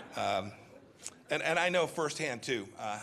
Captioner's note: laughter